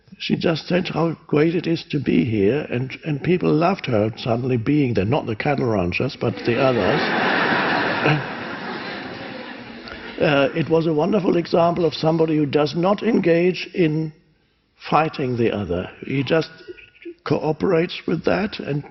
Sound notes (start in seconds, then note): 6.2 audience laughs